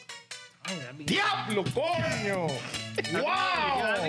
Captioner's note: speaking Spanish